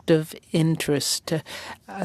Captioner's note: speaking french